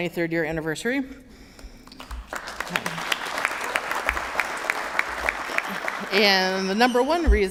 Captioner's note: applause